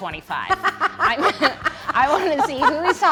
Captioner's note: laughs